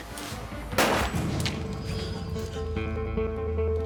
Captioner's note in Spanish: Disparos